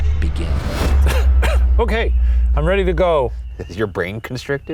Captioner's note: coughs